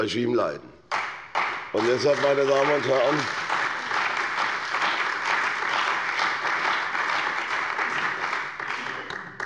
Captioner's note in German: Allgemeiner Beifall